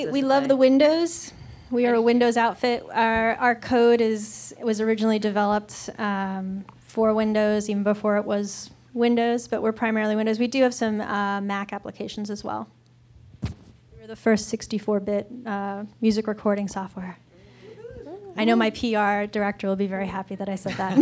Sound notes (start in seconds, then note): 17.4 light cheering